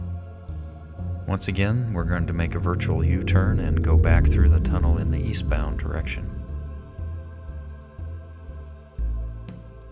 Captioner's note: low wooshing sound as video rotates